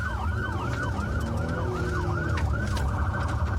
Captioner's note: engine guns